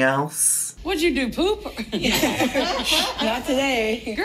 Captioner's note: laughing